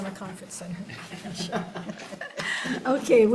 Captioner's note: everyone laughs